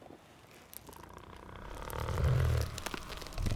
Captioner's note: snarling